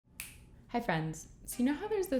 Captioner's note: finger snaps